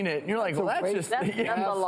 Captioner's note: laughs